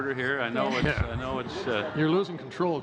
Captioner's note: laughter